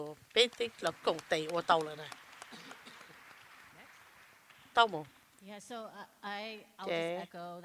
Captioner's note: applause